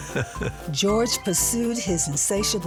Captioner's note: chuckles